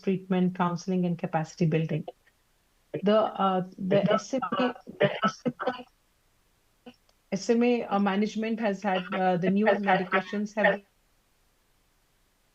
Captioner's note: laughter